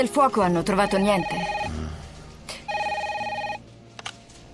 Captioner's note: phone rings